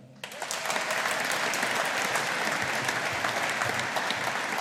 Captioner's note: audience applauding